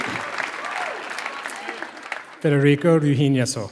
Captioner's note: applause